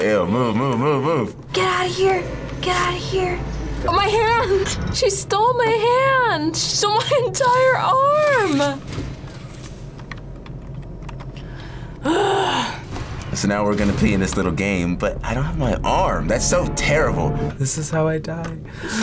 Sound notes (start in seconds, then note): 11.4 sighs